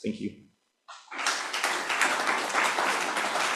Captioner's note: applause